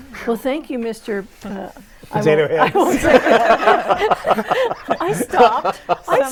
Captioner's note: laughing